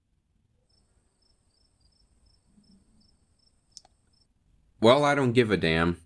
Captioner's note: crickets